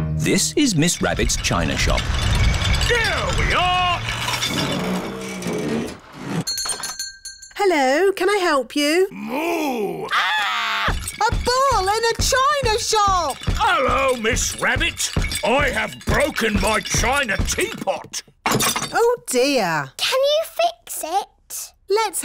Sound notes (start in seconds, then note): 6.4 shop bell rings; 10.0 screams; 10.8 thumping